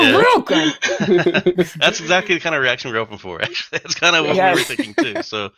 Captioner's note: laughter